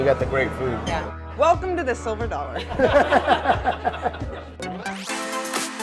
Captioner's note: laughter